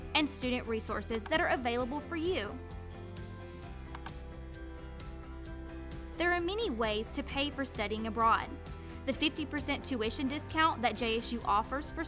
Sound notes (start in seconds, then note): 3.1 bright upbeat music continues; 3.9 mouse clicking